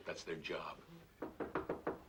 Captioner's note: knocking